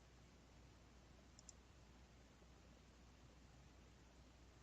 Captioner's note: mouse clicking